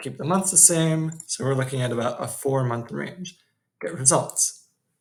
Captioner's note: clicks